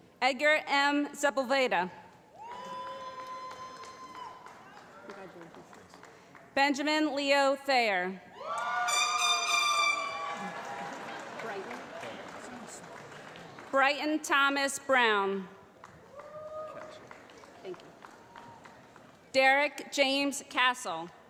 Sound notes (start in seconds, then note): 2.3 cheering; 8.9 honking